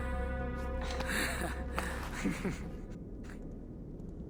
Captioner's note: laughs